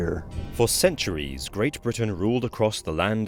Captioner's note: voiceover